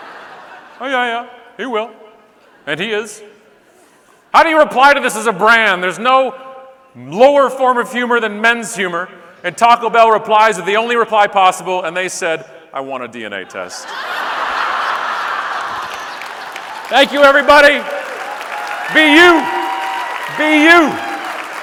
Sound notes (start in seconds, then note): 0.0 audience laughing; 13.4 audience laughing